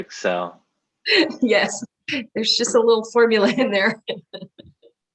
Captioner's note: laughs